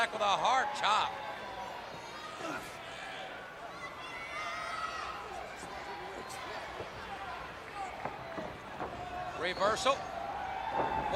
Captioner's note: crowd chatter